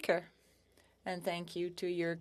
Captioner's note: speaking French